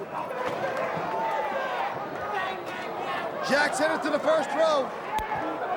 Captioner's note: crowd cheering